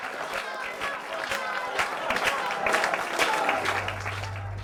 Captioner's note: audience crapping hands and shouting; drums